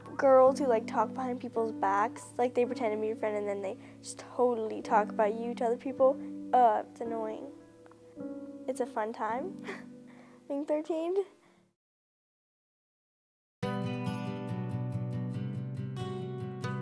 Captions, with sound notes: Girls who like talk behind people's backs, like they pretend to be your friend and then they just totally talk about you to other people. Uh, it's annoying. It's a fun time, (chuckles) being 13. (uplifting music)